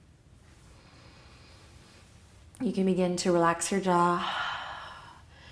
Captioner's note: inhale; exhale